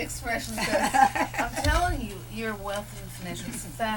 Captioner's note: laughter